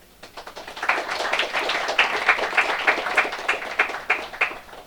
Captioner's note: applause